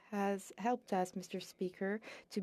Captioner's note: speaking French